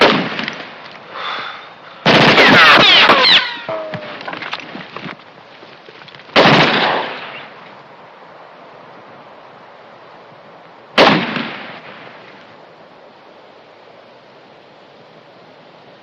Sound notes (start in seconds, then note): 1.1 sighs; 2.0 gunshots